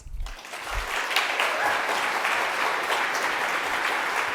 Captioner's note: audience clapping